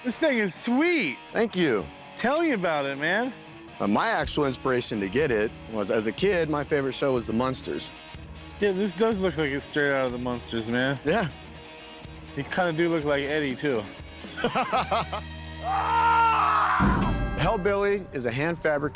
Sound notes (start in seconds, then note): 14.2 laughs; 15.6 screaming